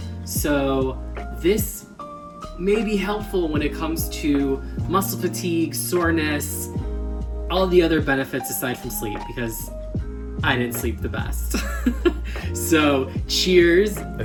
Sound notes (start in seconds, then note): 11.6 laughs